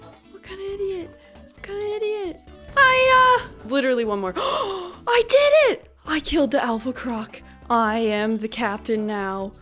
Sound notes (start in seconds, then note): 4.4 gasp